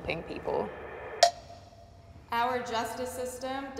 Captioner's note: bell dings